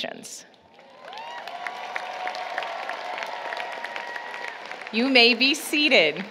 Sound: applause, Cheering

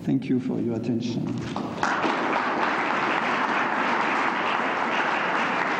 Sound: applause

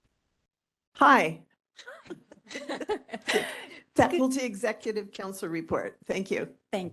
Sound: laughing

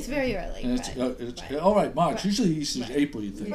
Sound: voiceover

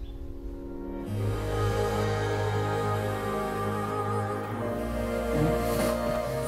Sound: phone vibrates

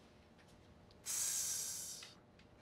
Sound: ABED makes a sizzle noise

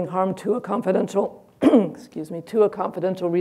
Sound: clears throat

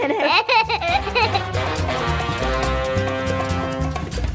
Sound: laughing

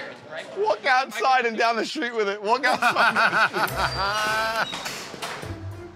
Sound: laughter

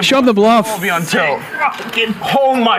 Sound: players murmuring in background

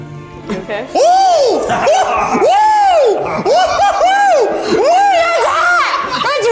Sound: screams

